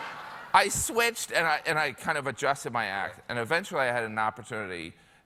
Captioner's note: laughter